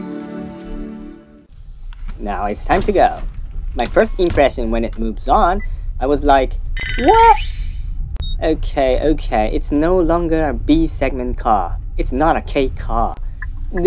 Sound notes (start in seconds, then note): 6.8 confused